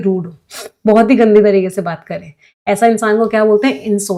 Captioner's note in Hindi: नाक से की जाने वाली आवाज़